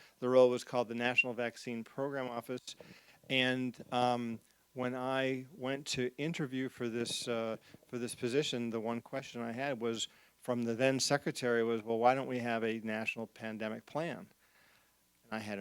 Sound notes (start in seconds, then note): none